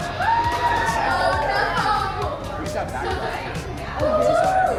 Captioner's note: guests cheering